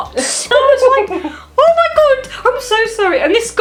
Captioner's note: mother laughs behind camera